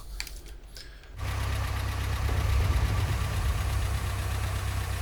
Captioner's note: tank rumbling